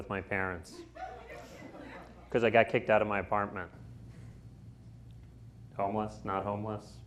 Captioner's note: laughter